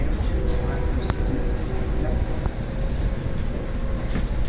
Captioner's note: Acela Express horn